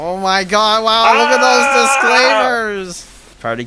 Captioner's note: screams